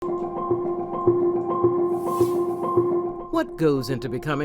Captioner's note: suspenseful music; transition whooshing